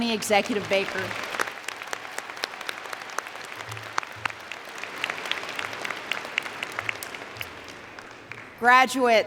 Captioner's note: applause